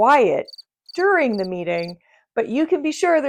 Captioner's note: crickets chirp